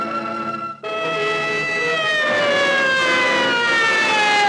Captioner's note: siren wailing